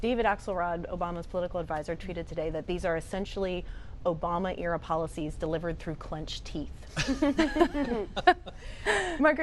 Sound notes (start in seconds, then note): 6.9 laughter